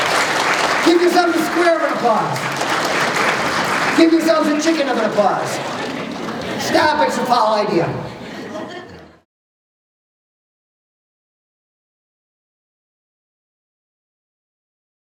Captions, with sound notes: [ Applause ] Give yourselves a square of applause. [ Applause ] Give yourselves a chicken of applause [laughter]. Stop, it’s a "fowl" idea.